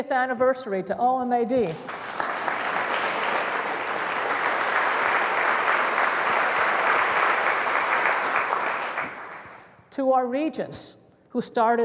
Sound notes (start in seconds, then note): 5.5 applause